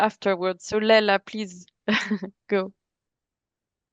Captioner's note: chuckles